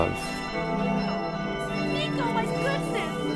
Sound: bells ringing

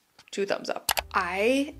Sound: mouse clicks

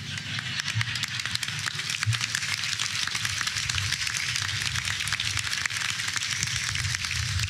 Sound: applause

